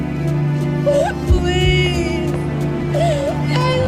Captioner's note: sobbing